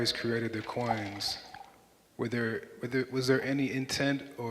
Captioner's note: water pouring